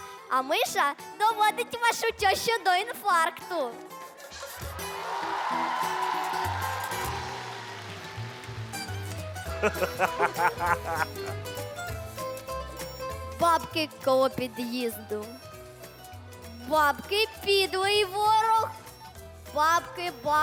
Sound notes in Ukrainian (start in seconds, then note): 4.7 оплески; 9.4 сміх